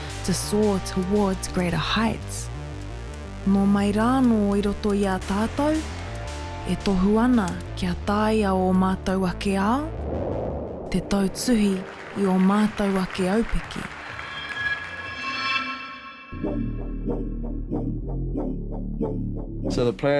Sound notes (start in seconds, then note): 13.5 audience applauds; 16.8 upbeat music